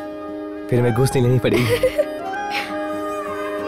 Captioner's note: Laughs